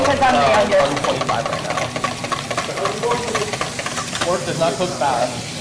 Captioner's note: whisking